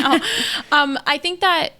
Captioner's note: laughs